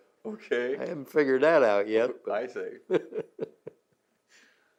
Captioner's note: laughs